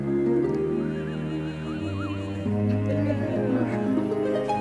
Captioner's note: whistling